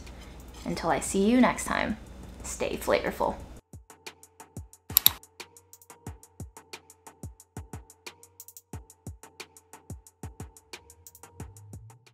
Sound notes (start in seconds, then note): 4.9 mouse clicks; 6.2 upbeat music playing